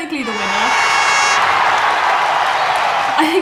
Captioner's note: horns cheering